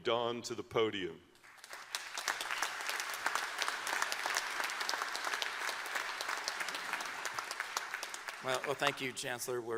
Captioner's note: applause